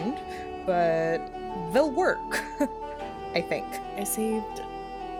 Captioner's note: nervous laugh